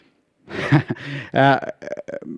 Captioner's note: laugh